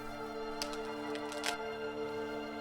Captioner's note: branch snaps